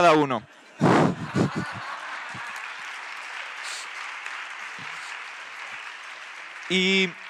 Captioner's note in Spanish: Aplausos